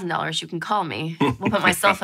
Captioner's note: laughing